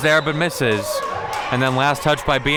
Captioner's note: whistle blows